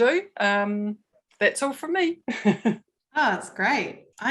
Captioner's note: laughs